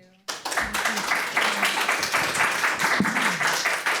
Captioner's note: applause